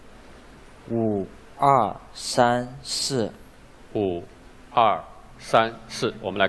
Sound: speaking chinese

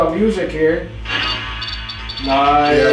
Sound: device beeping

